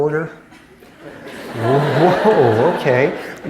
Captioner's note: laughter